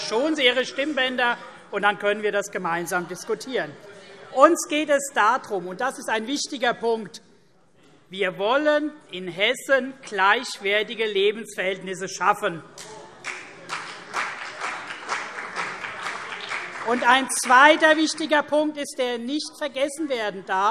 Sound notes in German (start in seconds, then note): 13.2 Beifall CDU und BÜNDNIS 90/DIE GRÜNEN